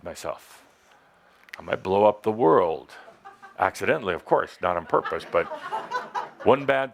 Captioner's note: laughter